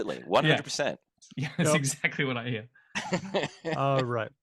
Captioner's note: laughs